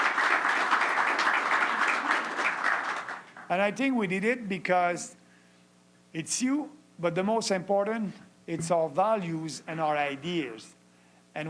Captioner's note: applause